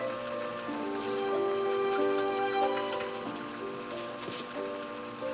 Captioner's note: Lilly mumbling